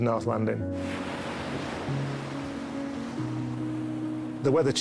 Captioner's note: waves rustling